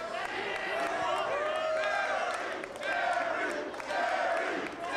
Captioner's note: crowd chants